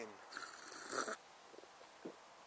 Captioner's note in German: Schlürfen